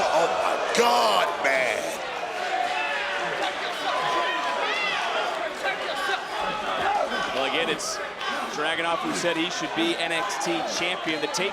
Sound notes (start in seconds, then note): 2.4 crowd chattering; 6.6 crowd chattering